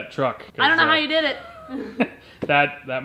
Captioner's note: laughs